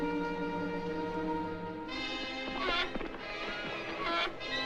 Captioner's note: hinges Creaking